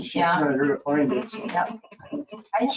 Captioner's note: people chuckle